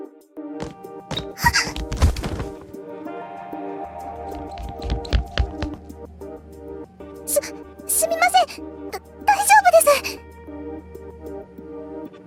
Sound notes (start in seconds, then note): 1.9 thud